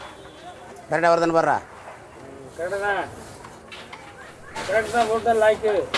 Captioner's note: speaking in foreign language; assistant speaking in foreign language